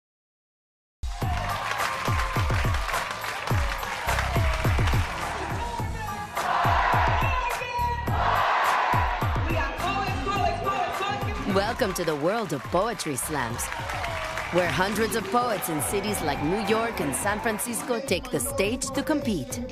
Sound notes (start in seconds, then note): 9.3 applause, cheers